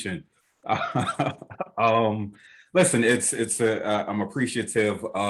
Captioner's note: laughs